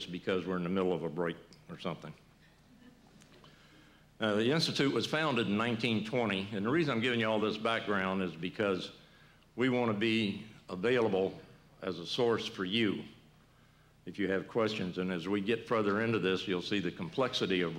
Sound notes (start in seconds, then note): 2.7 laughter